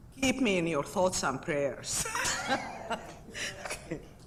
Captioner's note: laughs